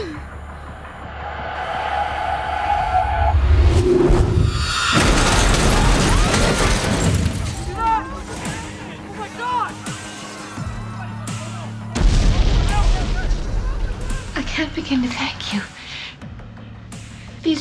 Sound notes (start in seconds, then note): 4.4 crashing; 6.1 screaming; 12.0 exploding